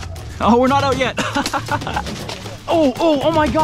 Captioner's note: laughs